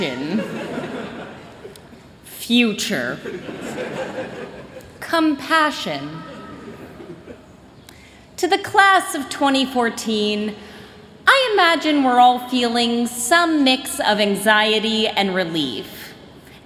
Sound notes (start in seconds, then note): 0.4 chuckling; 3.3 chuckling; 6.3 chuckling